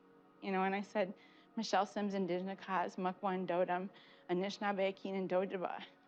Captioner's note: speaking Native language